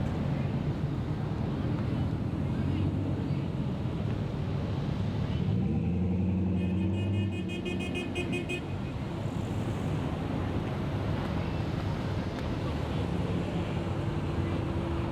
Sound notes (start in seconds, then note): 6.5 horns honking